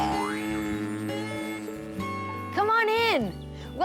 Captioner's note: bees buzzing